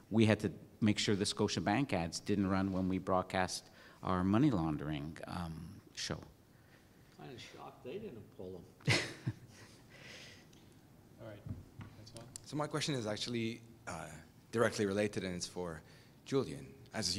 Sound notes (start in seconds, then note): 8.8 laugh